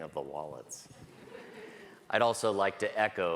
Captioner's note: audience laughs